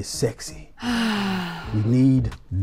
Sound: woman sighs

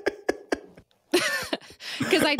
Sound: laughs

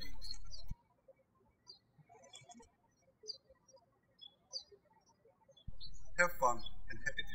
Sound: birds chirping

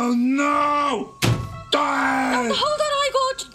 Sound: nose thudding

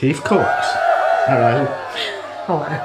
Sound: cheering

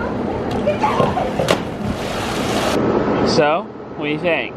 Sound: splashes

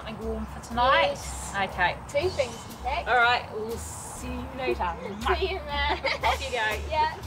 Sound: laughs

